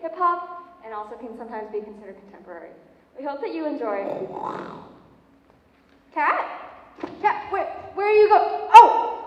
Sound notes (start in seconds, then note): 4.0 growl